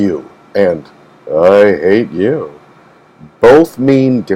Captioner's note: seductively